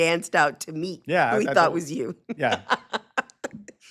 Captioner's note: laughs